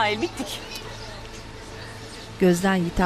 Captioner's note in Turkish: Kuş cıvıltısı sesi